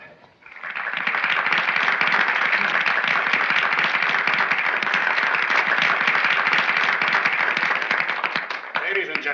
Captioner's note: applause